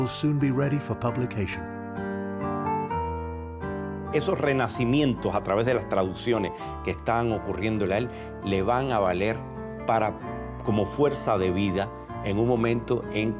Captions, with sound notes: and that the book will soon be ready for publication." -[ Speaking Spanish ]